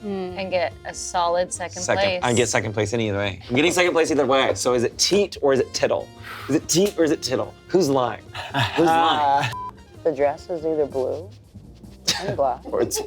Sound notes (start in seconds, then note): 9.5 beep